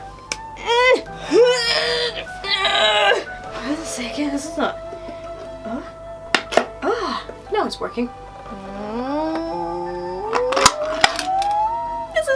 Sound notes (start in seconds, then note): 0.5 struggling sounds; 6.3 opens can; 10.2 can opening sounds